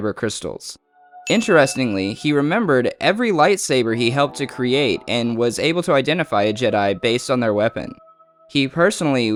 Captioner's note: ding